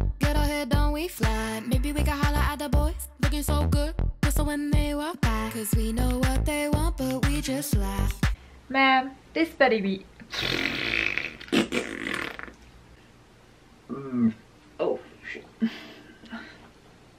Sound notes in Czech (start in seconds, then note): 10.2 zvuky dělané pusou